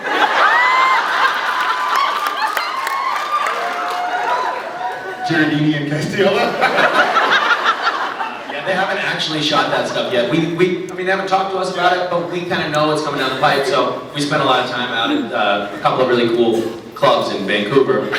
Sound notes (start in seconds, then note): 0.0 laughs, cheers, applauds; 6.2 laughs